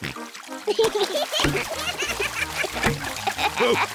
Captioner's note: oinks; both giggle; laughs